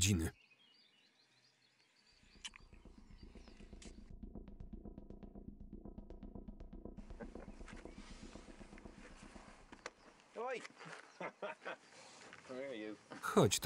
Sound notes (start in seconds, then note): 4.0 dramatic music; 7.1 Rory laughing